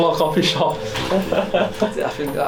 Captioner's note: laughs